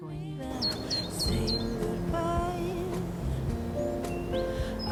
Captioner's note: birds chirping